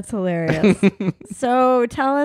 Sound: laughs loudly

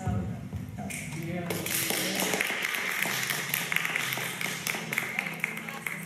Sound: even more applause and cheering

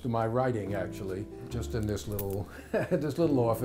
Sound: laughs

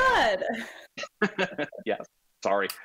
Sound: laughing

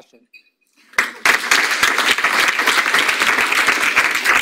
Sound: audience applauds

